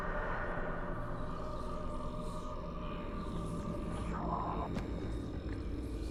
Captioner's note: faint distorted voice whispering